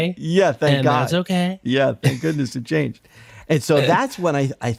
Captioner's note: laughter